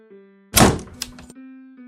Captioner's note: door slam